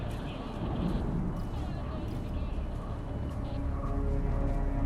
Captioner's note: police radio chatter